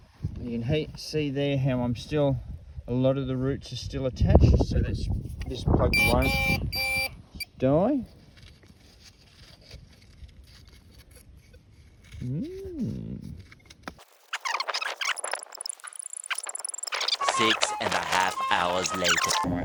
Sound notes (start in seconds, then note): 8.0 beep beep